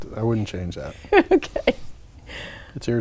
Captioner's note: laughing